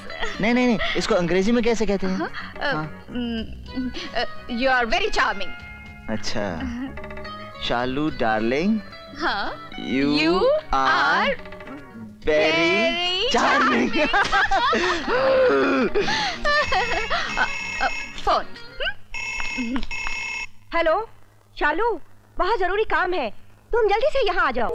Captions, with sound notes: No, how do you say that in english? You are very charming. I see. Shalu darling. You are very charming. - You are very charming. (Laughs) (Phone ringing) Phone. (Phone ringing) Shalu, I have urgent work, come here immediately.